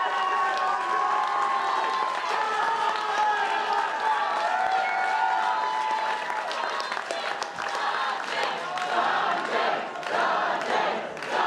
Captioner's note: cheers and applause